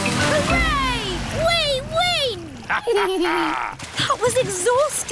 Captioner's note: both laugh